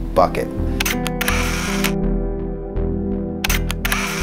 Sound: camera shuttering

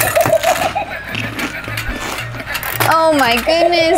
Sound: shark laughs

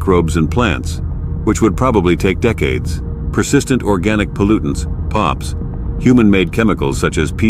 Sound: POPs

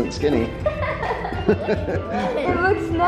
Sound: laugh

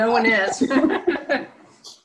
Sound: laughter

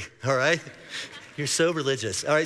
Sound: congregation laughing

